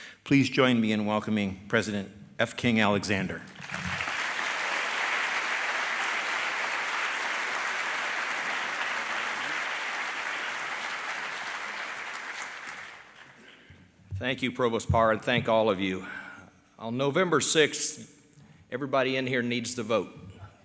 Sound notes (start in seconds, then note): 3.5 applause